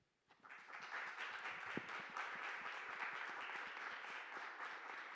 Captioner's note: audience applauding